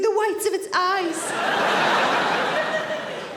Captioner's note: audience laughing